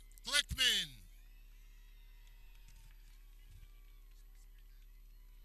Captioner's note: people cheering